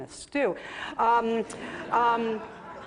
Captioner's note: laughter